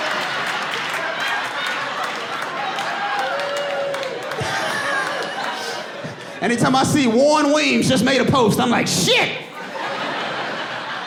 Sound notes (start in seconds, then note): 4.2 audience laughing; 8.4 laughs